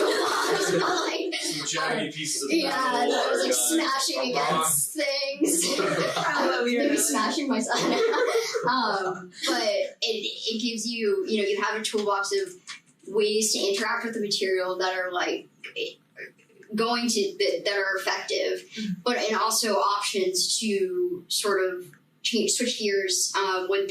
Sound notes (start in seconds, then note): 0.0 laughing loudly; 1.8 group chattering